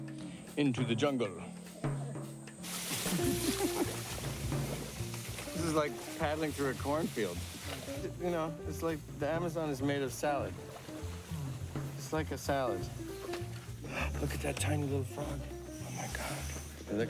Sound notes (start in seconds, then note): 3.0 laughing